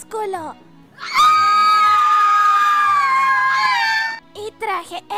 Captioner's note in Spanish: more fangirl screams.mp3